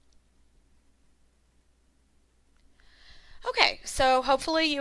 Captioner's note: silence